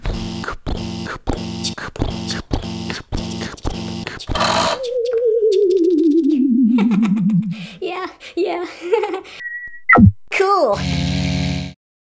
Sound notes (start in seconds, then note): 0.0 pounding footsteps; 4.2 click; 4.2 powering down; 9.4 beep; 10.8 buzz